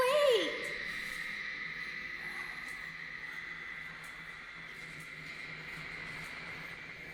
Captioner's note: lights buzzing; suspenseful music